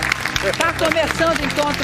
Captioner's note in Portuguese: aplausos